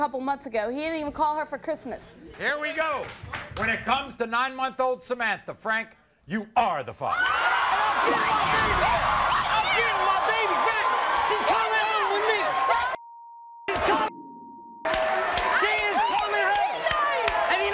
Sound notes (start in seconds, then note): 7.1 crowd cheering; 13.0 beep; 14.8 crowd cheering